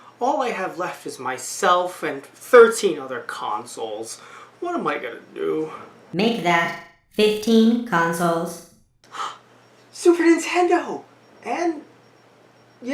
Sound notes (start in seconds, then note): 9.1 gasps